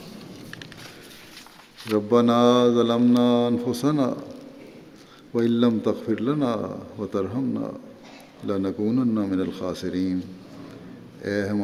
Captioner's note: Arabic